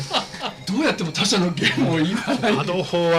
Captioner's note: laughs